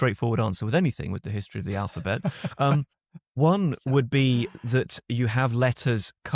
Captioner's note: laughs